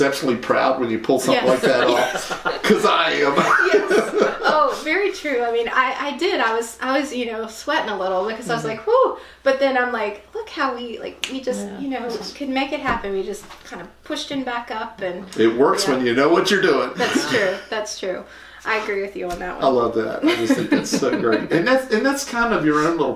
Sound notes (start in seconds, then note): 1.3 laughter; 11.2 finger snap